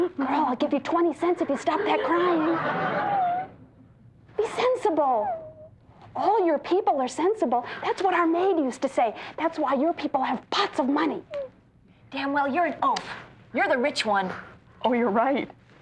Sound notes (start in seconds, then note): 1.4 laughter; 2.0 crying cont; 2.8 crying continues; 5.1 crying abates